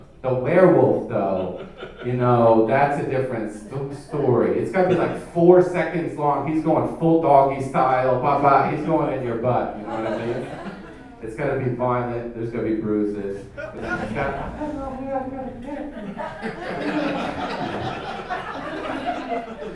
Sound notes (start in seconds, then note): 13.2 murmurs; 16.5 audience laughing